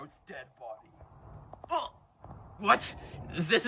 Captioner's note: gasp